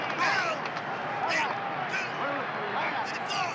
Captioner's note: players chattering